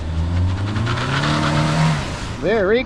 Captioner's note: tire squeel